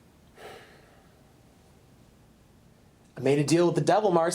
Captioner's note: Randall sighs